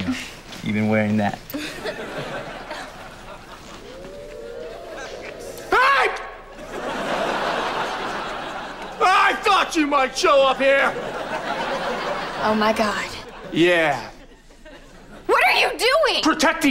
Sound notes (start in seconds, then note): 1.5 chuckles